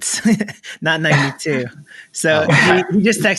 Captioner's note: chuckles